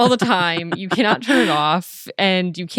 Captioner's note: laughing